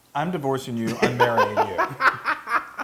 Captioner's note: laugh